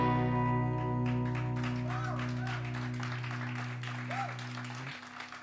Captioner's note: cheers and applause